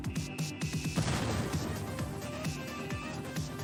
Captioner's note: explosion